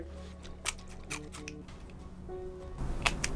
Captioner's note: celery crunching; celery crunches